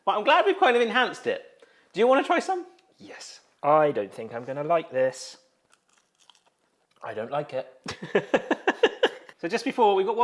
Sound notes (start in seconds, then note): 5.6 tortilla crunching; 7.8 both laugh